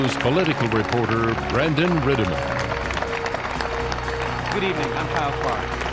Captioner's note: audience applauding